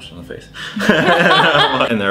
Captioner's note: laughing